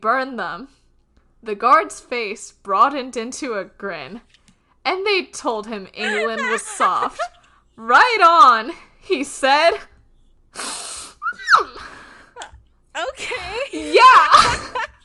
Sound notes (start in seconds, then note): 6.0 laughing; 11.3 screams; 11.4 laughing